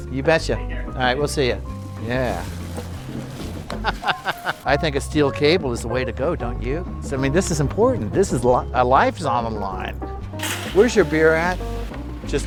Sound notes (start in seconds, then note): 3.8 laughs